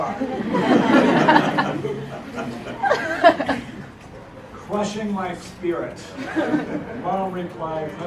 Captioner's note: laugh